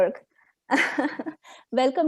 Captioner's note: chuckles